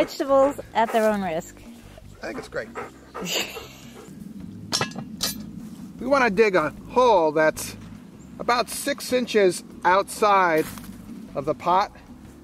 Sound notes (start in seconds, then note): 3.1 chuckles; 4.7 iron pot clanks